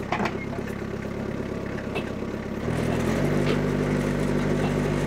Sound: telehandler engine rumbling

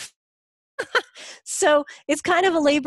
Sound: laughs

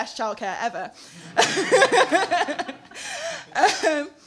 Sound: laughing

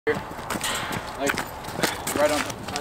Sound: indistinct chatter

